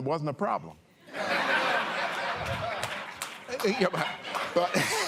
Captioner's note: laughter